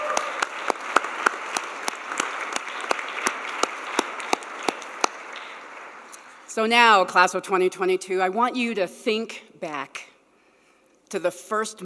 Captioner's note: applause